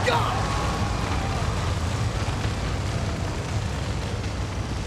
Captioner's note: flames roaring